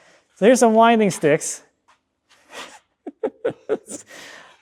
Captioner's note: chuckles